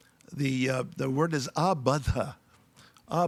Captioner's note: speaking in foreign language